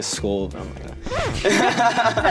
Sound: record scratch; laugh

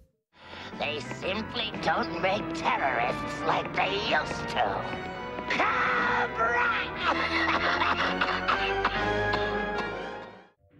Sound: coughing

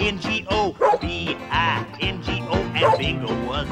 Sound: barks

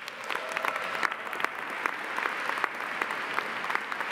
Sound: audience applauding

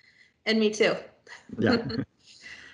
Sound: laughs

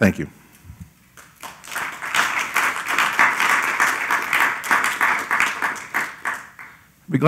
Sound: applause

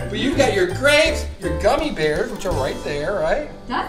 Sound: voiceover

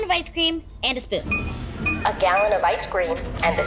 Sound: beeping

